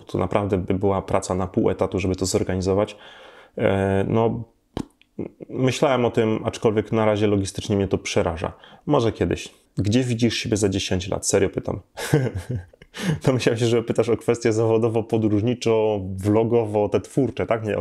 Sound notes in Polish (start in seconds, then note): 11.9 śmiech